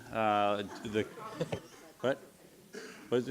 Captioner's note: laughing